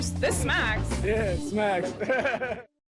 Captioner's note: laughs